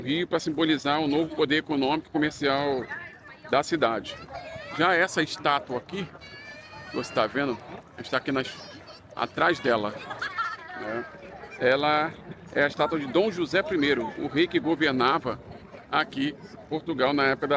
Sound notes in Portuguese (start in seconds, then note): 9.9 risadas